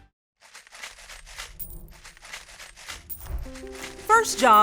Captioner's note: loose change rattles